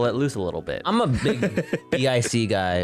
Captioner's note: laughing